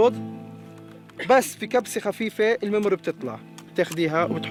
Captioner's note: Arabic spoken audio